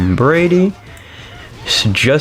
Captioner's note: inhales Oxygen